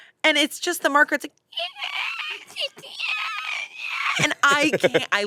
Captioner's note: imitates marker screeching